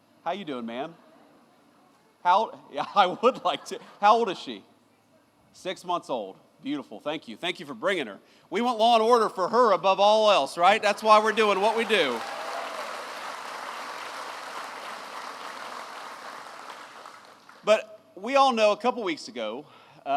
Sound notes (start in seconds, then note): 12.8 applause